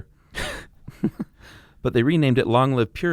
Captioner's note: laughs